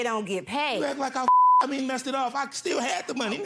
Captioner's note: beep